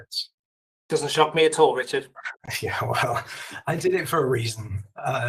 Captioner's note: laughs